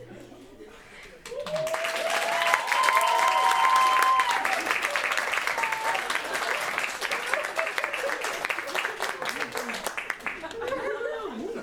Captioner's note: applause